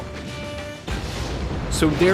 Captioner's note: explosions